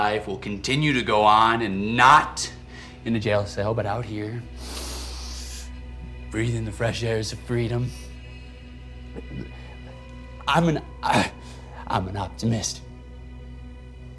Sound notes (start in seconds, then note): 4.6 sniffs; 9.2 grunts